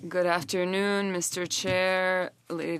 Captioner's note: speaking French